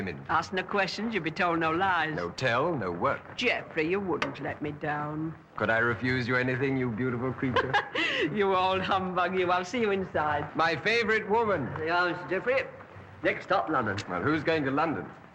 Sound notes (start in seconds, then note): 7.4 chuckles